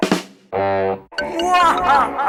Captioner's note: honk